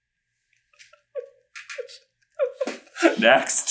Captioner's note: giggling